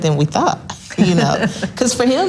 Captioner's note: laughs loudly